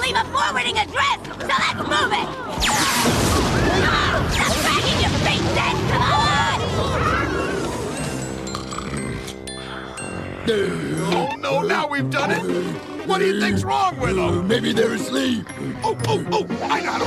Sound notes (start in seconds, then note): 8.6 snoring; 15.4 grunting